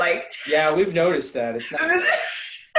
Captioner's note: laughter